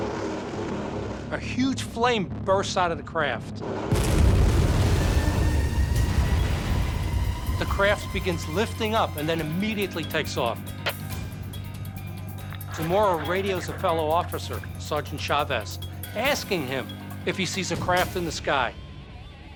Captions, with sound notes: A huge flame bursts out of the craft. [explosion] The craft begins lifting up, and then immediately takes off. Zamora radios a fellow officer, Sergeant Chavez, asking him if he sees a craft in the sky.